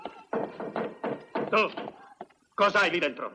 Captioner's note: knocking